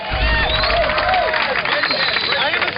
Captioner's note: cheering and applause